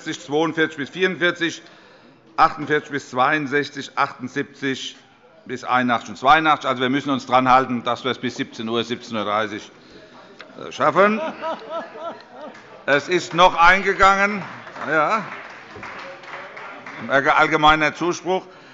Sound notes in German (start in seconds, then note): 10.9 Heiterkeit und Beifall